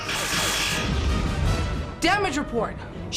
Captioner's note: explosion